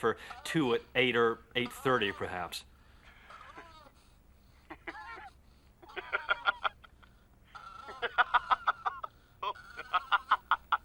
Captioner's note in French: le maitre d'hôtel rit au téléphone